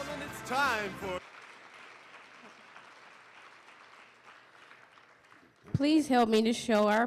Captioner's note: applause